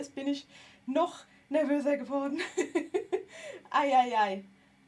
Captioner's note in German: gelächter